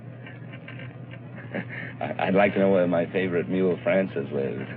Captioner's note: laughs